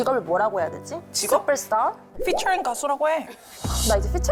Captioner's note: sound effect of clarity; serious music